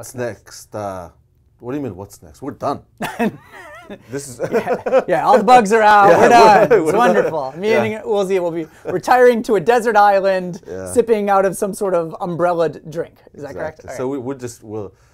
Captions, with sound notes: What's next? What do you mean, what's next? We're done! (both laughing) Yeah, all the bugs are out, we're done! It's wonderful, which means we'll be retiring to a desert island, sipping out of some sort of umbrella'ed drink. It that correct?